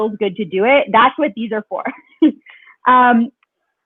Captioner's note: laughs